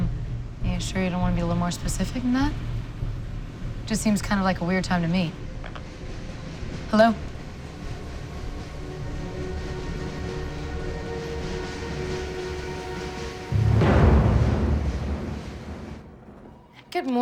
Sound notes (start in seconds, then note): 5.1 clicks